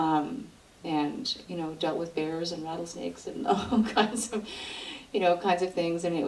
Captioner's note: laughs